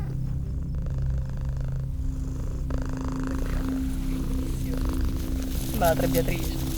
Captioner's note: purring cat